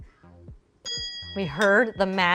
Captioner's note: ding